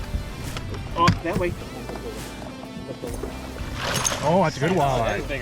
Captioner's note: crew members speaking softly